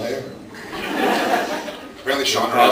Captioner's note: laughs